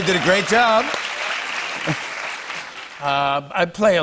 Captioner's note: applause